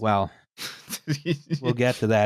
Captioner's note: laughs